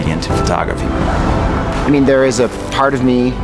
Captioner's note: air whooshing